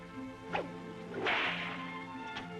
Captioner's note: cracking whip